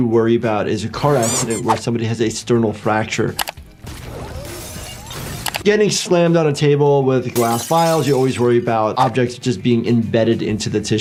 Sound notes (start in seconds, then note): 3.4 mouse clicking; 3.9 glass shattering